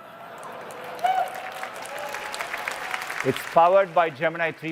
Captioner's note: applause